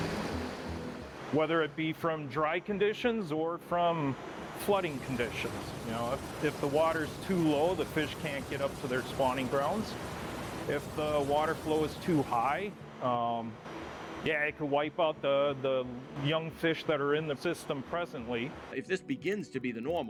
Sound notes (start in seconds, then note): 5.1 nats of running water